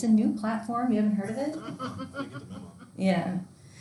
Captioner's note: class laughing